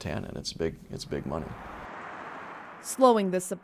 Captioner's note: traffic whooshes